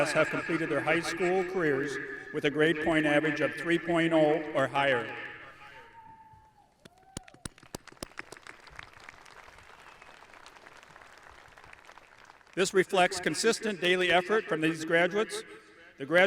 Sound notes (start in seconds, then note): 6.8 audience cheering; 6.9 audience applauding